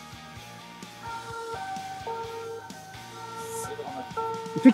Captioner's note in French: Sirène d'ambulance